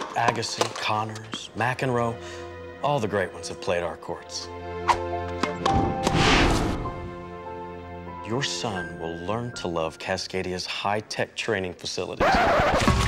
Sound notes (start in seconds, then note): 6.0 tennis ball popping; 12.8 mud thudding